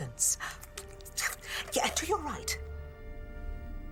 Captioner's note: clicks tongue